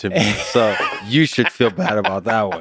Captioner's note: Tim laughs